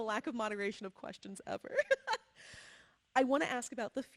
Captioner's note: laughs